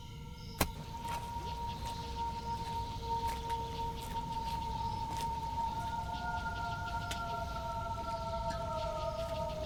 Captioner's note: an animal howl echos in the distance